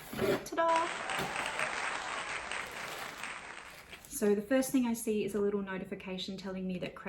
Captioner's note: applause